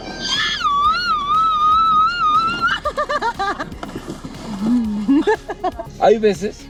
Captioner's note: laughing